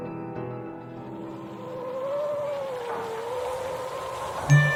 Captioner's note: eerie wind sound